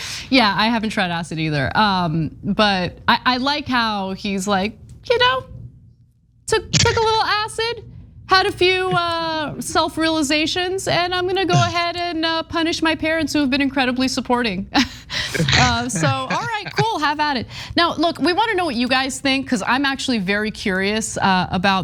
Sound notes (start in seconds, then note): 15.2 laugh